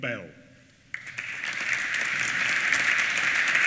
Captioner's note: applause